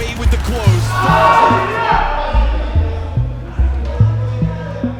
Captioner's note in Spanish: el equipo grita